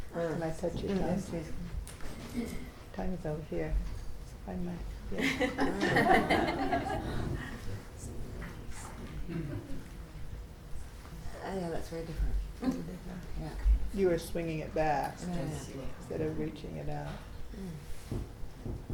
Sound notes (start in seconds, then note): 5.2 people laughing